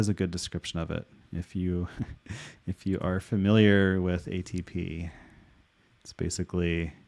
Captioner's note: chuckling